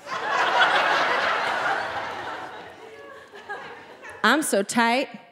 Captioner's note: audience laughing